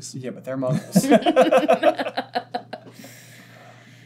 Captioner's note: laughter